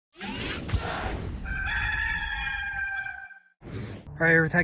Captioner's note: rooster crowing